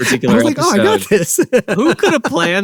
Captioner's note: laughs